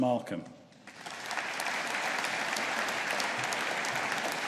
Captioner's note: audience applauding